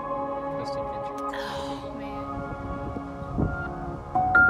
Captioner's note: contented exhaling